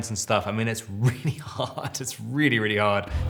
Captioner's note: Robert laughing